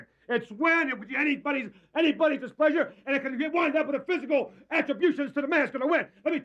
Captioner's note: none